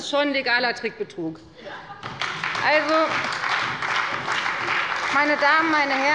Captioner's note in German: Beifall bei der FDP und bei Abgeordneten der SPD